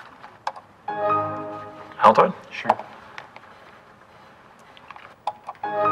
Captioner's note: computer Sound